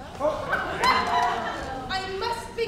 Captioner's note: audience laughs